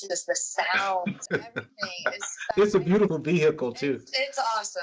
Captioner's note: laughs